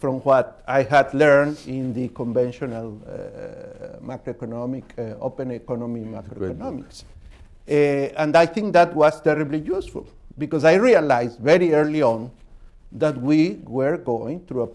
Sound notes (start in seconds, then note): none